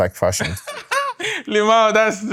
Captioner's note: laughing